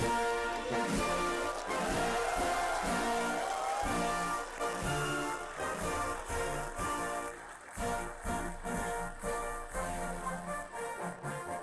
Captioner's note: applause